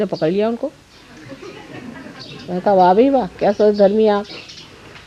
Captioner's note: yogis laugh